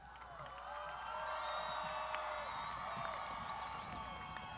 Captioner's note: graduands shouting